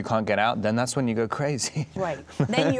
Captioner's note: laughing